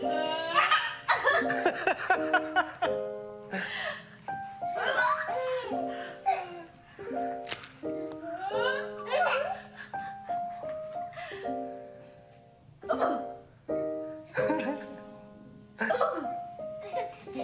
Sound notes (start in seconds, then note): 2.6 laughs